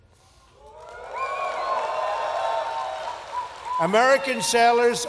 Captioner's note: cheers